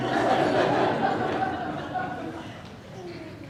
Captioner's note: laughing